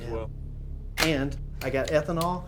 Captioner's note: rifle cocks